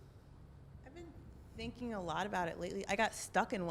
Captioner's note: voiceover